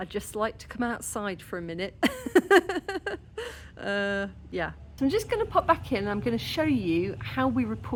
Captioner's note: laughing